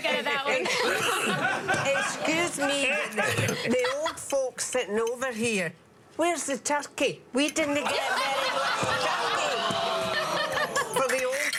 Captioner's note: laughter